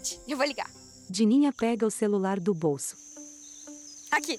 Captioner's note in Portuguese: Ruídos de mata